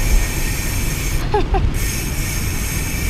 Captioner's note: laughs